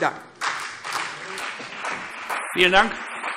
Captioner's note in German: Beifall CDU und BÜNDNIS 90/DIE GRÜNEN